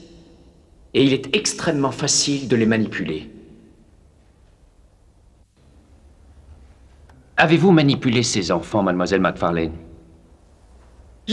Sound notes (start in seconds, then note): none